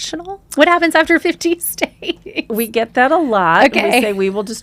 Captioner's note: laughs